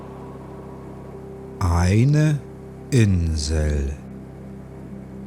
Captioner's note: german